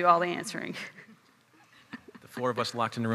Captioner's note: chuckling